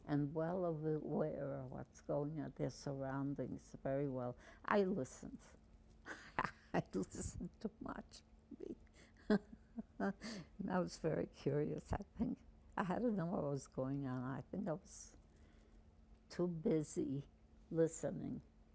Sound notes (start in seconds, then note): 6.1 laughing